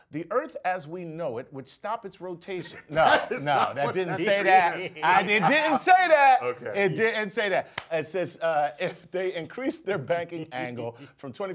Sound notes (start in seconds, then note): 5.5 laugh